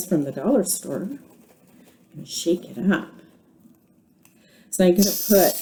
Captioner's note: shaking the can of shaving cream